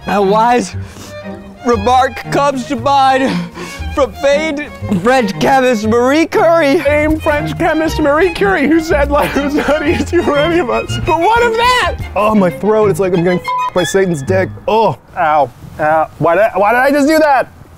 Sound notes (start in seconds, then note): 13.0 beeping